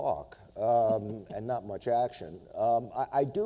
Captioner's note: laughs